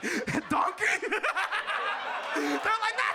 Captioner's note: audience laughs